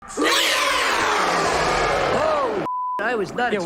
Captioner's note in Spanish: criatura grita